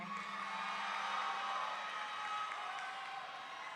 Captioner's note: audience cheering